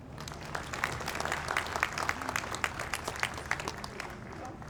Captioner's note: audience applauds